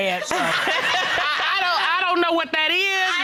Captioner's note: all laughing